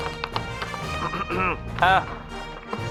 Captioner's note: coughing